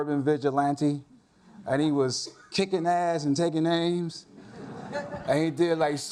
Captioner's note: audience laughs